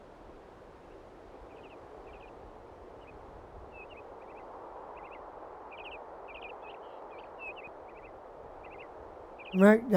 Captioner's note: birds chirping